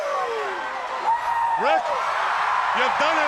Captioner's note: Ric howling; crowd howling; Sting howling